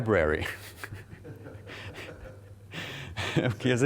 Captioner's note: laughing